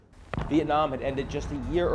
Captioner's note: missile thundering